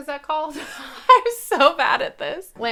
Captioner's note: laughing